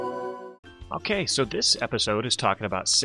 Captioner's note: voiceover